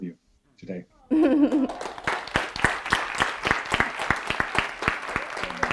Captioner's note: audience applauding